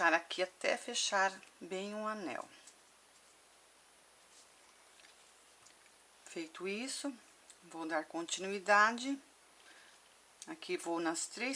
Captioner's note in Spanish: en español